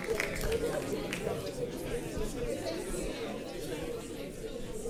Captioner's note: audience chattering